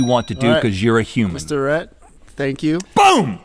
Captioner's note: bell ding